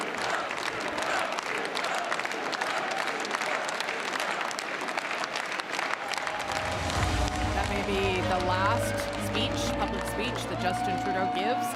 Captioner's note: cheering and applause